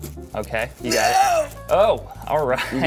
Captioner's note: groaning